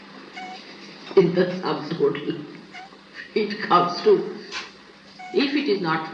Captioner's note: she laughs